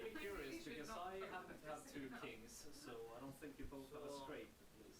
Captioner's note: players chattering